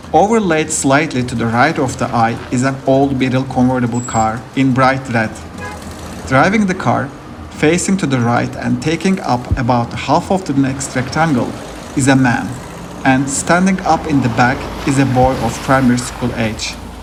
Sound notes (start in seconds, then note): 5.4 car horn